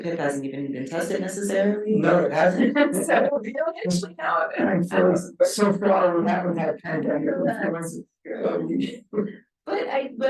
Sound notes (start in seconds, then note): 2.1 chuckles; 4.1 speaking faintly